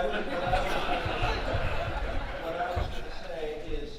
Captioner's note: audience laughing